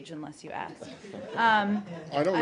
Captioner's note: laughter